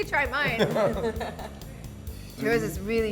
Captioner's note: laughter